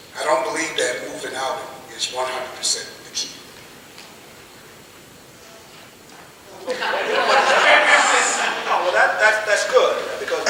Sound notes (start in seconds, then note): 6.5 laughing